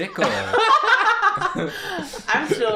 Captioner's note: laughter